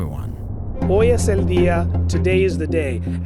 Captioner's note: reporter speaking non-English language